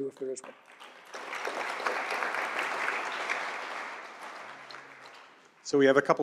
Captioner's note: applause